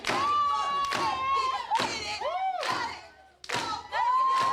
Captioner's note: crowd cheers